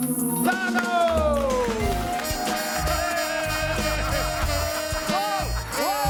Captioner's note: audience cheers